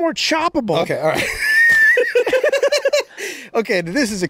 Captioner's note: everyone laughing